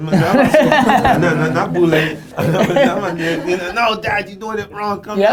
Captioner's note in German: Lachen